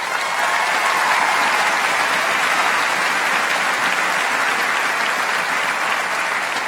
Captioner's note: applause